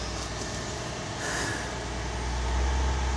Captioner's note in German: Maschinensurren im Hintergrund